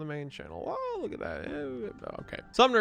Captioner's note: exclaims